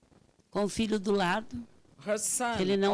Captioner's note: speaking Portuguese